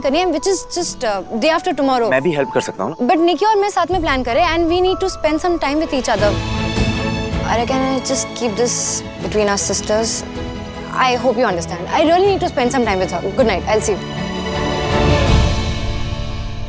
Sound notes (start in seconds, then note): none